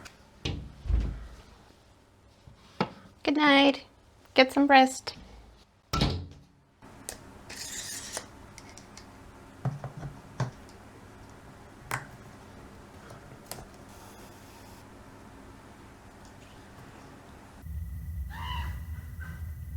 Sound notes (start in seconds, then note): 0.5 glass door opens; 6.0 glass door plonks closed; 6.7 more plasticky metally wheel noises; 18.3 birds straight up yelling/cackling